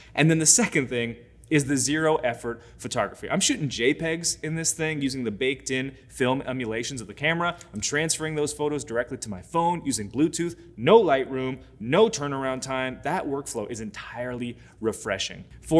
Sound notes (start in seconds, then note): none